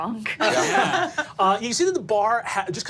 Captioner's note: group laughing